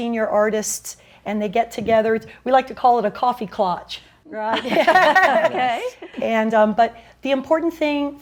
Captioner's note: laughs